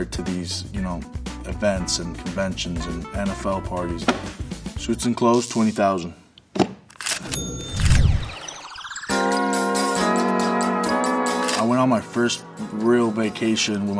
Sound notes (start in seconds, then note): 7.2 ka-ching; 9.1 upbeat music